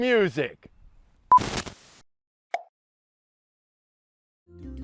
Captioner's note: camera beeps